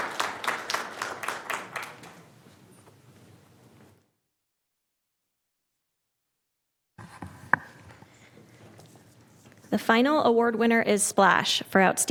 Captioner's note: applause